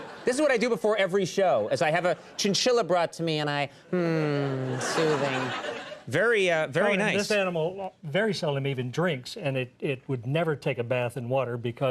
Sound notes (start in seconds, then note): 3.9 Conan sighs